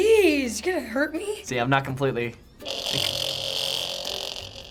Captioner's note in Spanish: zumbido